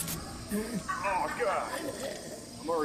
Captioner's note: slurping